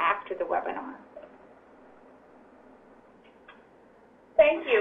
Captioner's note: pause